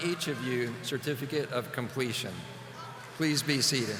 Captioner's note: audience applauding